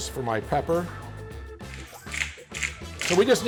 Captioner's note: sprinkler